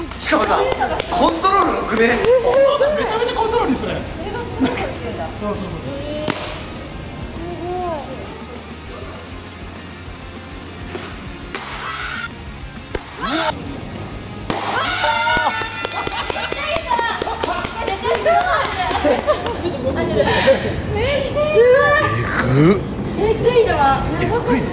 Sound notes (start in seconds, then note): 6.2 murmuring crowd